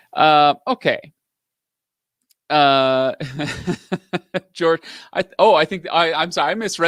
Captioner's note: laughs